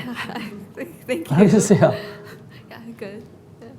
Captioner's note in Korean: 질문자 웃음